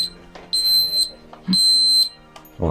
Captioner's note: beeper beeps in Lithuanian